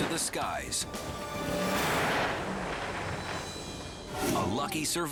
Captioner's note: canopy opens